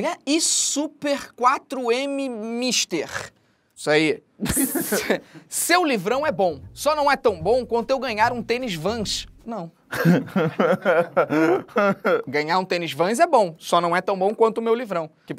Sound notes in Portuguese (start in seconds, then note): 4.4 risadas; 9.9 risadas